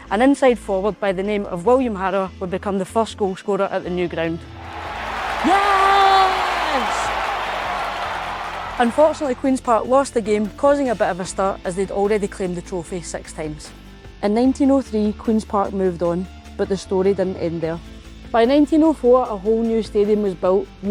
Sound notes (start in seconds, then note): 4.5 crowd cheering